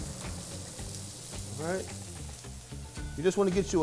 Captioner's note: food sizzling